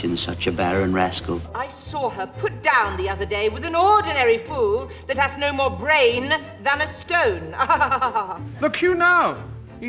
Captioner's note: she laughs weirdly